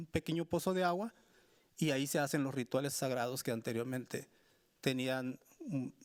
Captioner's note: speaking Spanish continues